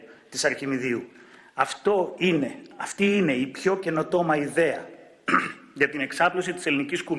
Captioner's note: clearing throat